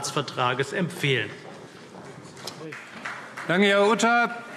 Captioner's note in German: Beifall CDU, vereinzelt BÜNDNIS 90/DIE GRÜNEN und Freie Demokraten